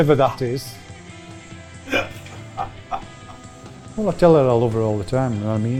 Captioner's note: director laughing in background